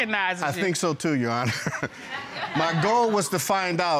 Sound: chuckles

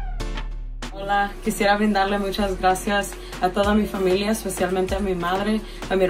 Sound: speaks in foreign language

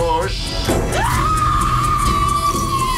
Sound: screaming

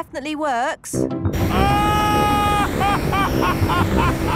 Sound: excited screaming, laughing

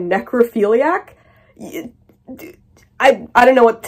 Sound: exasperated stammering

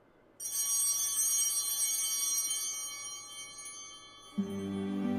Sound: bell ringing

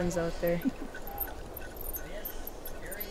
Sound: laughs

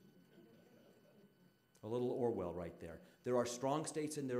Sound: audience laughing

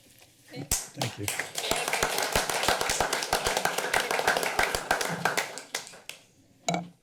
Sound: applause

